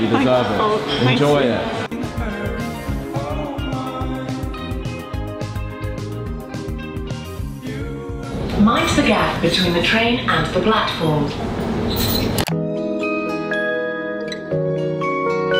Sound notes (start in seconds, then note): 1.8 cheerful music; 8.2 train